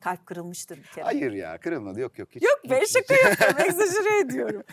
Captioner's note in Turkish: kahkaha